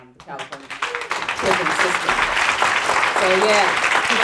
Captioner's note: audience applauding